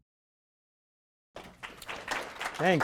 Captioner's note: applause